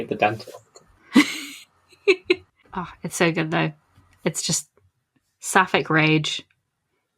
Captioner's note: laughs